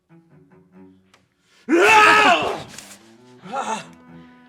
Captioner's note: cry of rage